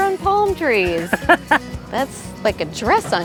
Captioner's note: laughing